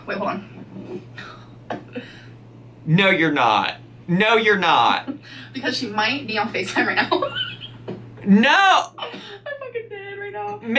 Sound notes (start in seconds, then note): 6.9 laughing